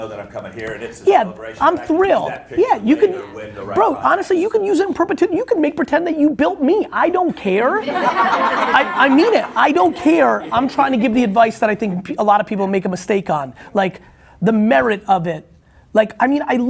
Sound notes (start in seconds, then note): 7.8 laughing